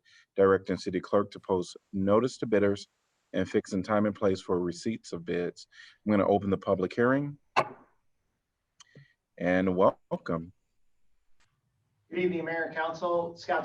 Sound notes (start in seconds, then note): 7.6 gavel strike